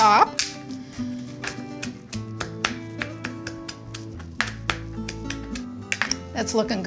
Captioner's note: gentle music continues; knife tapping